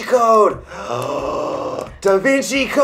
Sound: gasps

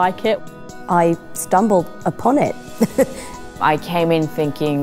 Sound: laughs

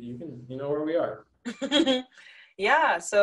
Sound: chuckles

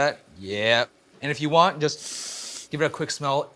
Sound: sniff

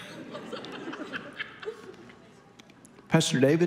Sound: congregation laughing

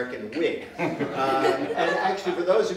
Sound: laughter

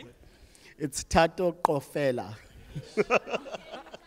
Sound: laughs

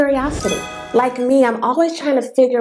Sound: sound effect

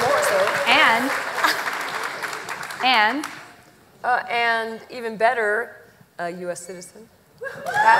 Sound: applause

